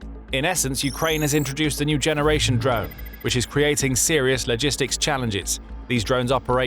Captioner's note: drone